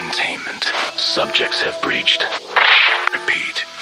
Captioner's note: Static